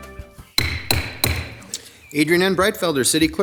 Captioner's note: gavel bangs